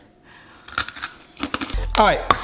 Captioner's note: breadstick crunching